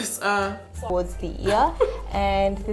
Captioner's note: laughs